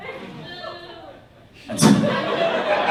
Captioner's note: audience boos